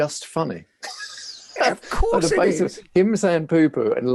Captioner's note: laughing